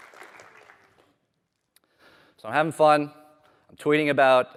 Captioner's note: applause